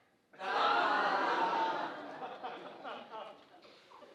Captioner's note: audience laughing